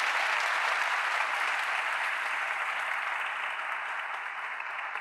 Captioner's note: audience applauding